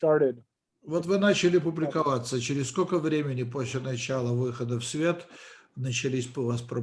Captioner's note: translator speaking Russian language